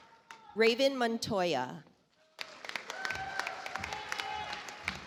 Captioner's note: audience applauds